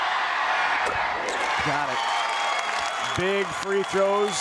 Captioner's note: crowd applauds